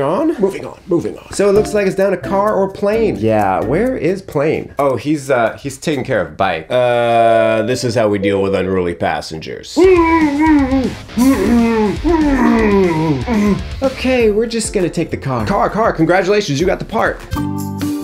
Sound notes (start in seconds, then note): 9.8 bike moaning